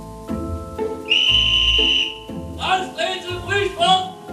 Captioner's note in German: Schriller Pfiff, entspannte Musik